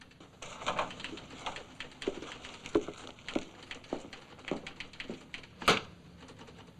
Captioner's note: footsteps; typewriter chattering; folders rustling; whack